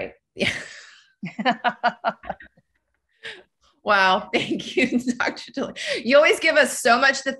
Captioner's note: both laugh